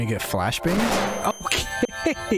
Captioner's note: flash bang